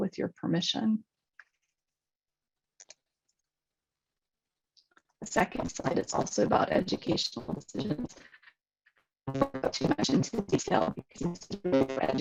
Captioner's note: distorted audio